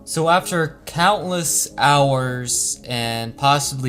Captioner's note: none